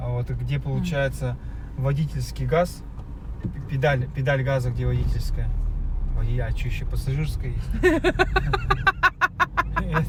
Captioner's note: laugh